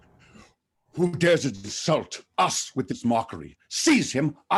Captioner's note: none